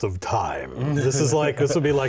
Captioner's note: slow chuckles